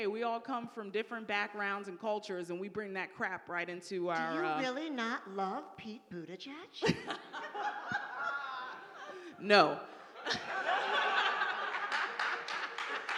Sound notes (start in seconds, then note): 6.8 laughing; 9.8 audience laughing